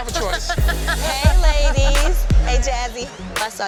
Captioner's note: laughing